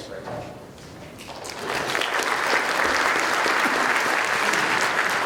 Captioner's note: clapping